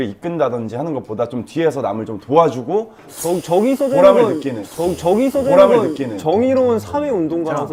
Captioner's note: inhale of feeling doubtful